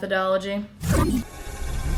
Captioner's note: fwoosh